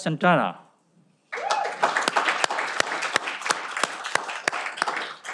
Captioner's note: cheering